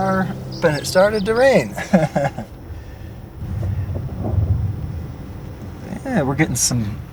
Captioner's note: laugh; thunder